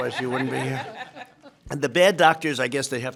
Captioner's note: laughter